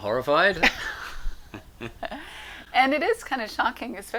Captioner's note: laughs